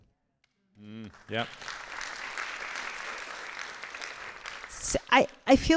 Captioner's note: audience applauding